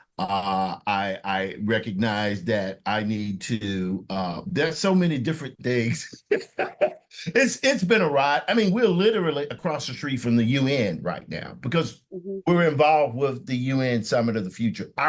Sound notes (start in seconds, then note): 5.8 laughs